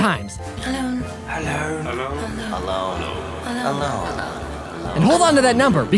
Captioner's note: "alone" echoing